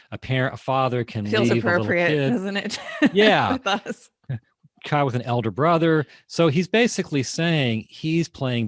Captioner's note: laughing